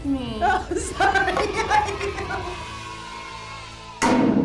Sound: laughing; crowd cheers; hammer slams

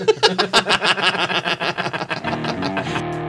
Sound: cackles

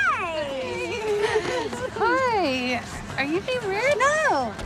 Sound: chuckles

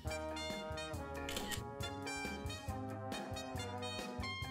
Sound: shutter clicks

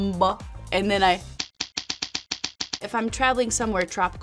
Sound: fingers thudding

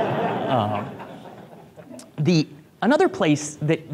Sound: group laughs

